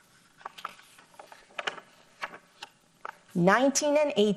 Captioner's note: paper rustles